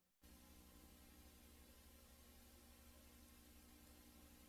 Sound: VHS static

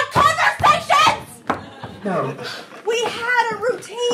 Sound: audience laughing

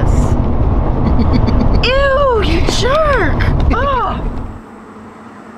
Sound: Mack laughing

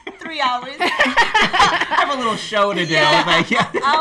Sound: laughs

